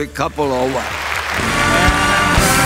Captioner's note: clapping